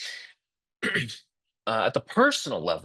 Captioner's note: interpreter clears throat